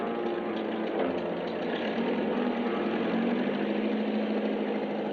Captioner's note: engine rumbling